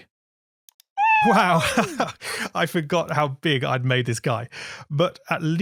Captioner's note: laughs